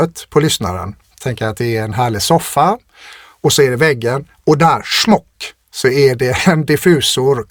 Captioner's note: scoffs